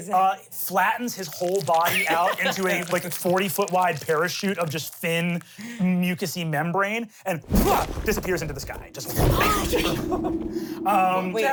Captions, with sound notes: and flattens his whole body out into like a 40-foot-wide parachute of just thin, mucousy membrane and disappears into the sky. Just (whooshes).